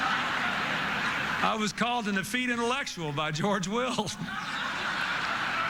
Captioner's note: laughter